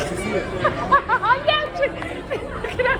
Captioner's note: laughing